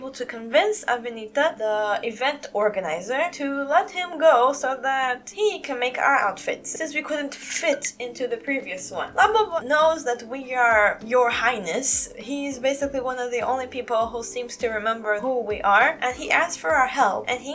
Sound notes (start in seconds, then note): none